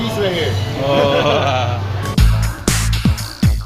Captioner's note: ooh ahhaha